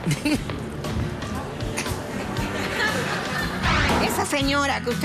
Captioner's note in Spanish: risas